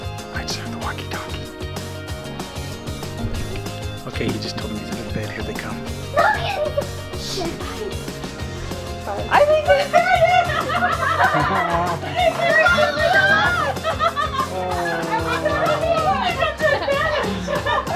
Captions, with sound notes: I just heard the walkie talkie. Okay he just told them he's under the bed. Here they come. (laughter)